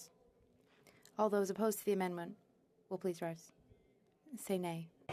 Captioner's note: speaking French